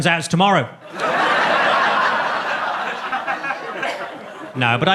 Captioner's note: audience laughs